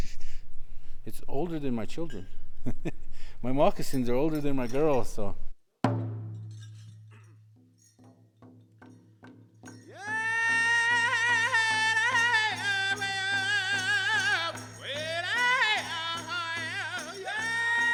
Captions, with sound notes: it's older than my children. (chuckles) My moccasins are older than my girls, so. (drums beating) (men singing in foreign language)